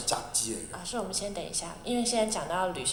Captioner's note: Mandarin